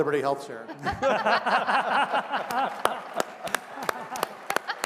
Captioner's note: laughter, applause